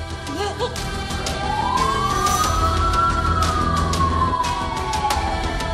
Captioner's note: ambulance siren is ringing